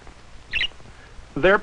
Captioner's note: chirping